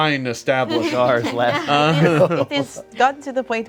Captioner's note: group laughs